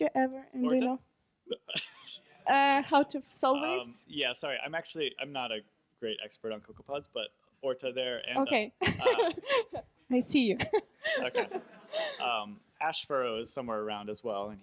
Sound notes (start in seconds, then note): 0.0 voiceover; 1.5 laughs; 3.0 voiceover; 8.1 voiceover; 8.8 laughs